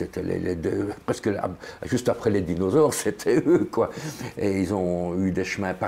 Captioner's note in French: rire